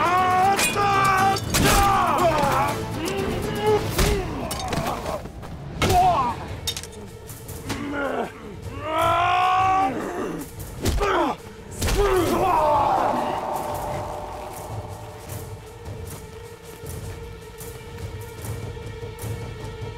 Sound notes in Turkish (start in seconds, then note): 0.0 Dövüşme sesleri; 3.5 Dövüşme sesleri; 14.3 Müzik - Gerilim